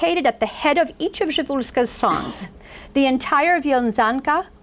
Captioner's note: foreign language